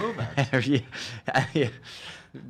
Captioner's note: chortling